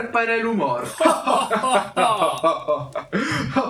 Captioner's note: laughs in closeted homophobia